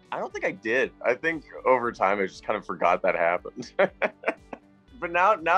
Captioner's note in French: rire